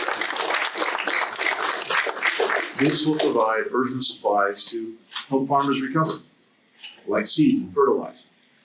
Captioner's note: applause